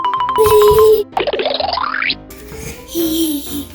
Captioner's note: alternating high-pitched piano keys; cartoony blooping; Gaga Baby chuckling